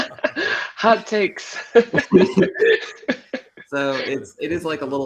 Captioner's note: laughter; laughter